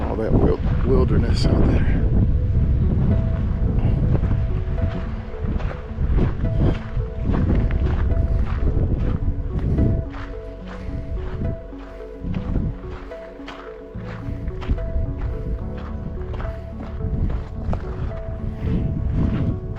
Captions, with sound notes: All that wilderness out there. (wind blowing)